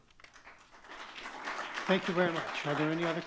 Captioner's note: audience clapping